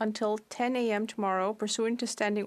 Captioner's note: speaking French